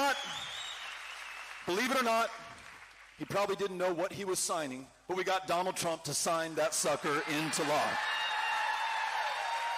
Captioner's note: cheering